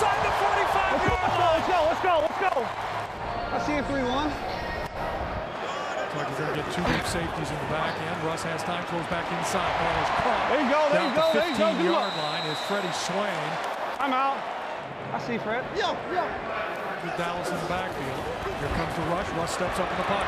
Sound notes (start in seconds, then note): 2.9 crowd cheering